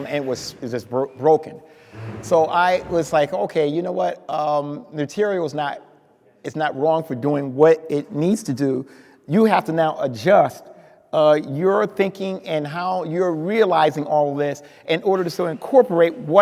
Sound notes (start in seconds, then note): none